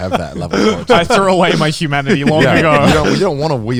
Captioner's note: chuckles